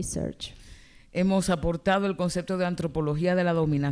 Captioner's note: speaking spanish